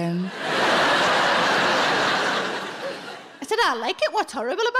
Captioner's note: audience laughing